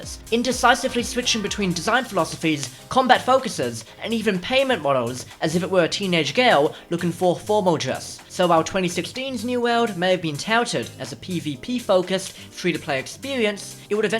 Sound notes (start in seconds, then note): none